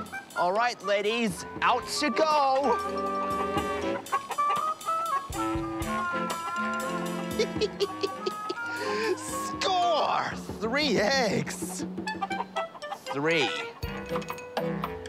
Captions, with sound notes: All right, ladies, out you go! (CHICKENS CLUCK) (CHUCKLES) Score! Three eggs. Three.